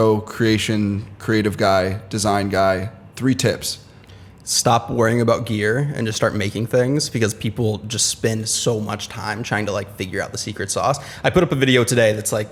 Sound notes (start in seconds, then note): none